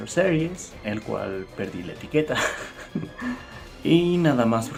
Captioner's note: laughs